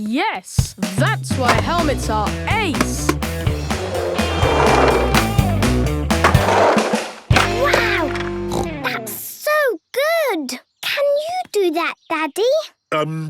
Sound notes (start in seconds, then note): 8.4 snorts